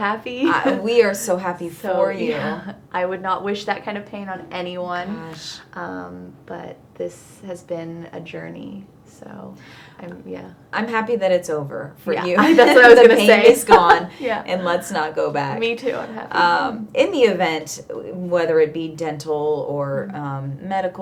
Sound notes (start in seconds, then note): 12.3 laughing